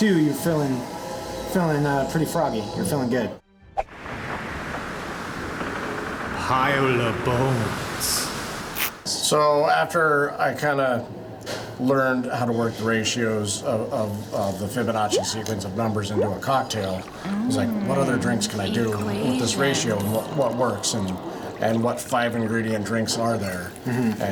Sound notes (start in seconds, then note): 4.1 tense music; 6.6 voiceover